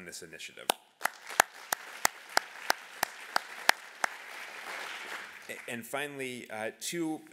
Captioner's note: applause